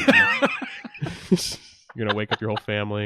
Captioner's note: laughs